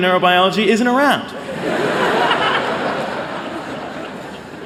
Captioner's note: laughter